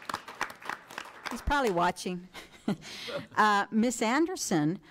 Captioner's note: laughs